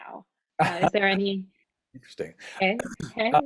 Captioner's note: laughs